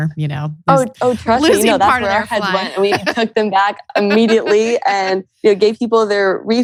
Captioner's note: laughs